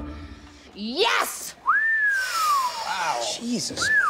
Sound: whistling

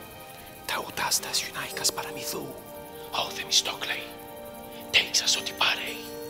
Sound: friend whispering in foreign language

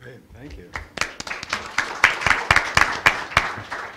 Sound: applause

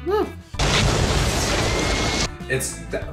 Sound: fire erupting

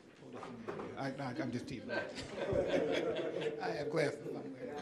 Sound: audience laughing

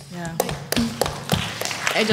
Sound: applause

